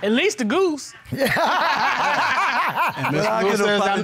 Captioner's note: laughter